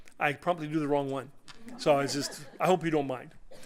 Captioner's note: laughter